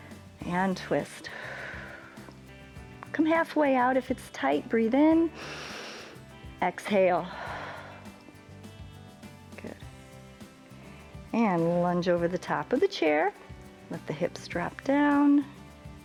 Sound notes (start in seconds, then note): 1.2 exhales; 5.3 inhales; 5.3 exhales